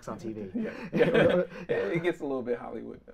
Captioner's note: both laughing